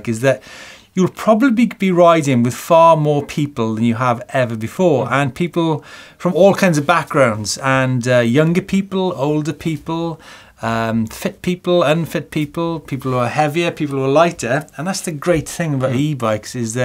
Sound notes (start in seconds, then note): none